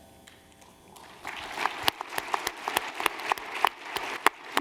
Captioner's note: applause